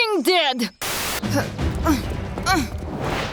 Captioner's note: grunting